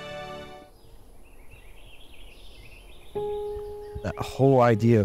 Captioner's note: birds chirping